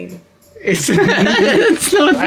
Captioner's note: laugh